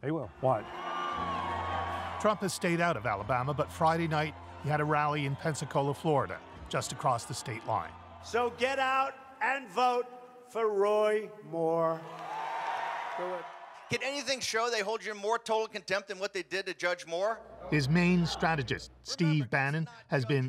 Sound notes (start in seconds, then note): 13.5 cheers and Applause